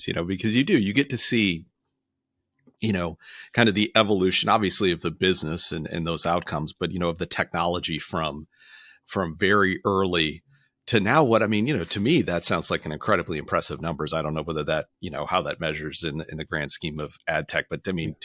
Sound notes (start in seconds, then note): none